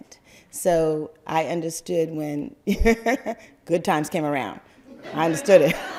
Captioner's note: laugther